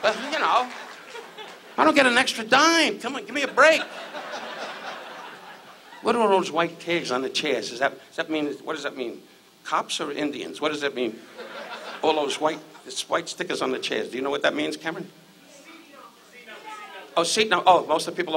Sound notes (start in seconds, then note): 3.4 audience laughs; 11.2 audience laughs